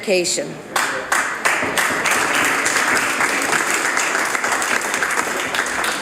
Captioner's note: some Applause